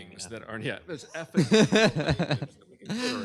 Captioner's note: laughter